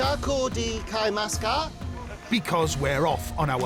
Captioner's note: speaking Asian language